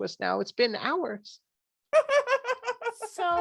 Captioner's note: laughs